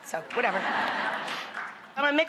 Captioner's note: audience laughs